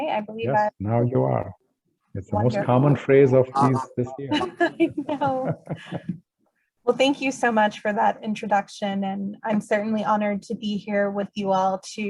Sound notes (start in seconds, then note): 5.7 laughs